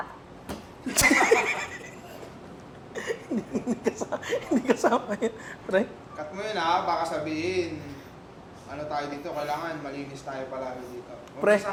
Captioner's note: laughs